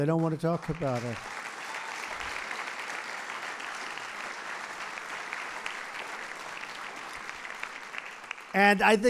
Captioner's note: applause